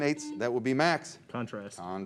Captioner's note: beep